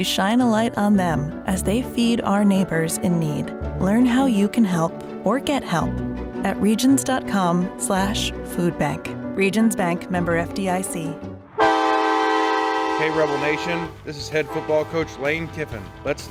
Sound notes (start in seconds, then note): 11.3 horn blaring